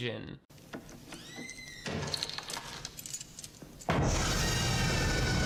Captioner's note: door squeaking; keys rattling; dramatic music